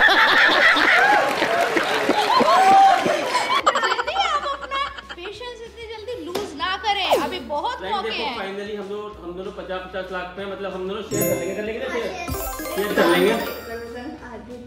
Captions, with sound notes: [APPLAUSE] Hey abhi bahot hai maat hum bhi share kar lenge kar lenge